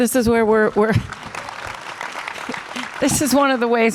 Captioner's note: audience applause